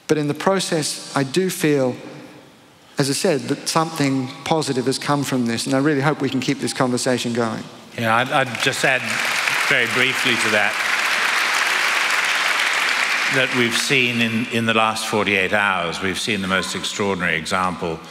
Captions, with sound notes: But in the process, I do feel, as I said, that something positive has come from this. And I really hope we can keep this conversation going. >> Yeah. I'll just add very briefly to that [applause]. That we've seen in the last 48 hours, we've seen the most extraordinary example